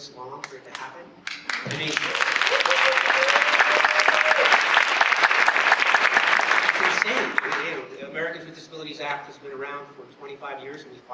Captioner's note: applause